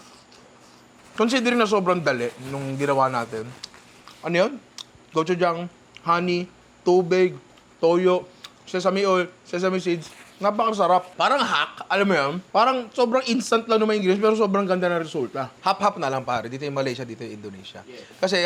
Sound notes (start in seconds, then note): none